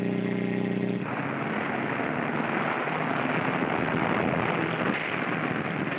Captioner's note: car engine racing; wood splintering